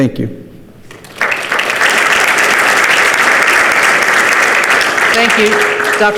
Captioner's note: participants clap